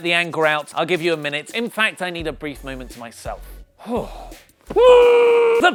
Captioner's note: screams into pillow